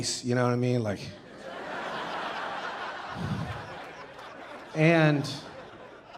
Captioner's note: audience laughing